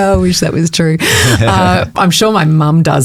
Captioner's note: chuckles